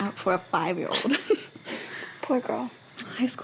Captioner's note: laughs